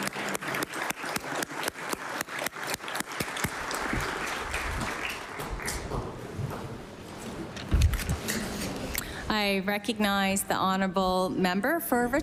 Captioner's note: applause